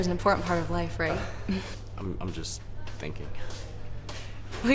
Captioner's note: laughs